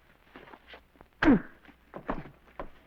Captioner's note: thud